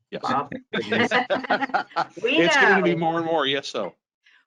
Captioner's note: laughs